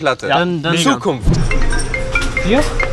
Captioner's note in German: Telefonklingeln